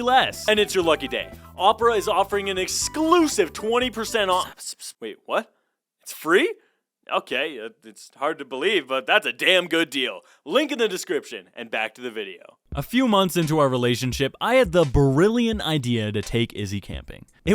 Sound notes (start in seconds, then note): 4.7 agent whispers in Brody’s ear